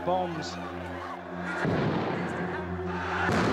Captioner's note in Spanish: explosiones